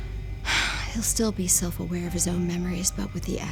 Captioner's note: sighs